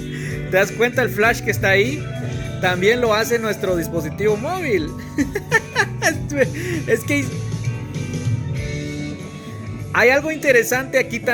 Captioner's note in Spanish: risas